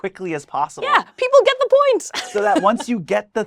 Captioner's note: laughs